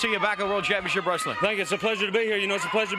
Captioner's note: crowd cheering